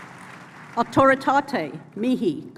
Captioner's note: speaking latin